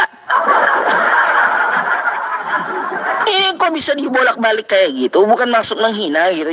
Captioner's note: laughs